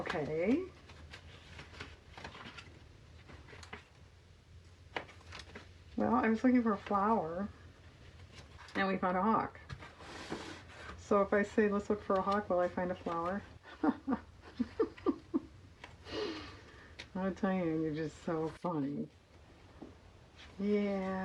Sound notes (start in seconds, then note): 16.2 laughs